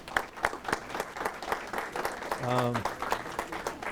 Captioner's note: applause